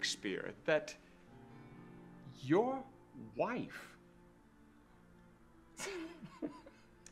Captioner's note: chuckling